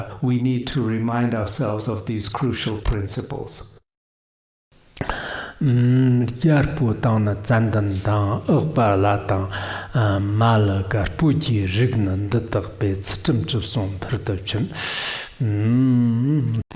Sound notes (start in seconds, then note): 4.7 giving oral transmission in Tibetan